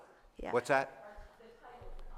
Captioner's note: speaker off-microphone